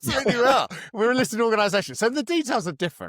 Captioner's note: laughs